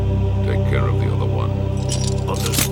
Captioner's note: hushed